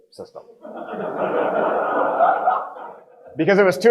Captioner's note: audience laughing